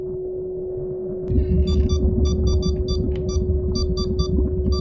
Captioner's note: machine beeping